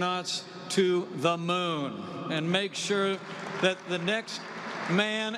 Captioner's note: applause